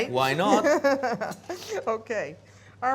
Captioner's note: laughing